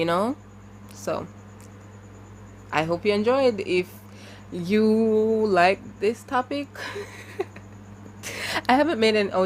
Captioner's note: laughs awkwardly